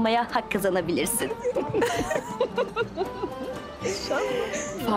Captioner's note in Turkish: Gülme sesi